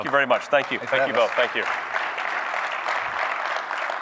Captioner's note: applause